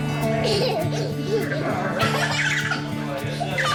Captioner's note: giggling